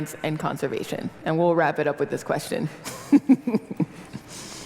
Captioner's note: laugh